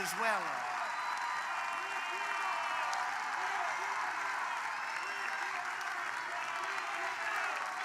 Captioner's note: applause